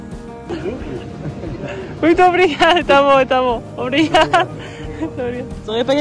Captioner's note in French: foreign language